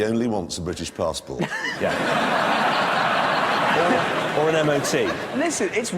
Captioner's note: audience laughs